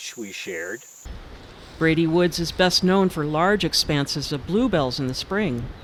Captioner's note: plants rustling in breeze